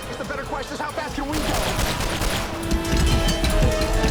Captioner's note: gunshot